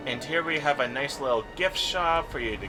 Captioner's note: none